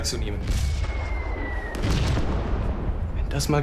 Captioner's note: shells explode nearby